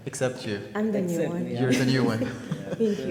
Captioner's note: laughs